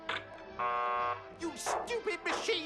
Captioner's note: machine buzzes